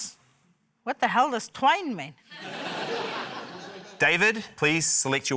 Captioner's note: laughter